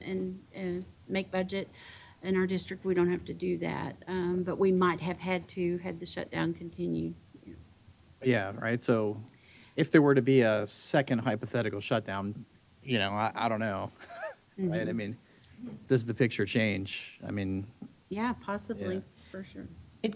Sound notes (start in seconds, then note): 13.9 chuckles